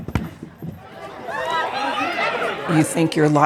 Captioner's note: kids chatter